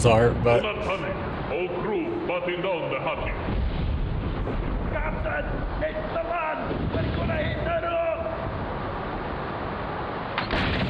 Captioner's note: ship's crew yelling in a storm